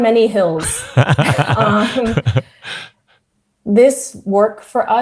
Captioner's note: laughs